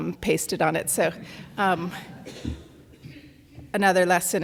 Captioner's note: audience laughs